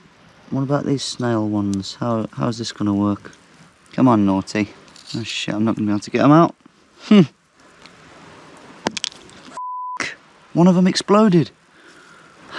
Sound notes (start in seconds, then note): 8.6 loud pop